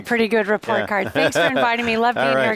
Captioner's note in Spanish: risas